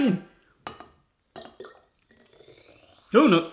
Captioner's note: pouring